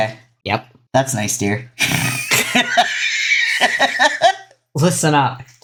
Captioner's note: laugh